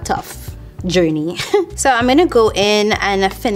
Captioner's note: chuckling